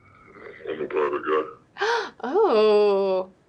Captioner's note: altered male voice